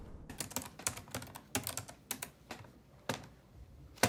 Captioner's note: typing